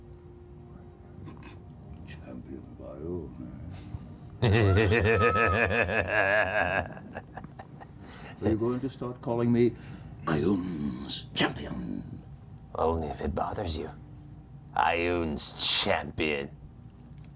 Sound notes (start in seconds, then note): 4.4 demonic cackling